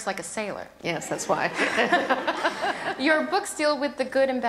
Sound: laughs

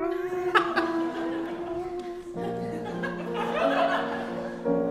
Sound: audience laughing

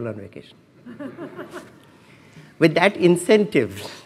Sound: laughs

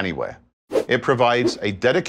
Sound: graphics whooshing

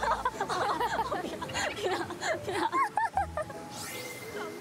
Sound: laughing

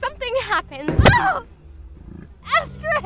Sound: screams

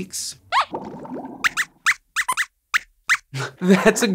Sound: squeaks squeaks

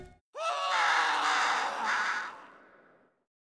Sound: screaming

